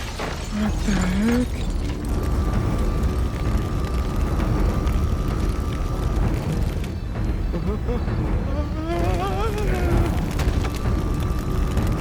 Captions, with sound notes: What the heck! (menacing, dark music) (fire crackling) (Homer yells, trembling)